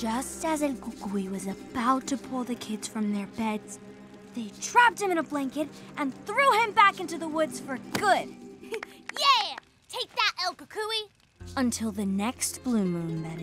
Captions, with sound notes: Just as El Gugui was about to pull the kids from their beds, they trapped him in a blanket and threw him back into the woods for good. [clapping] Yeah. Take that, El Gugui. Until the next blue moon, that is.